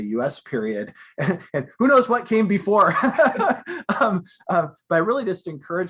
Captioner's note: laughing